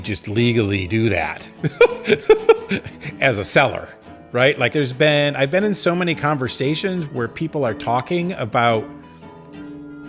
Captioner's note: laughs